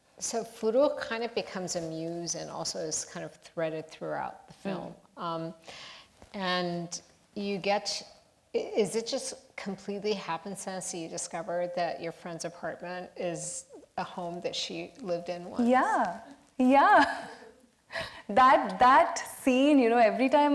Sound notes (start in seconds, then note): 18.0 laughs